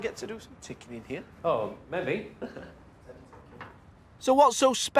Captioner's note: chuckles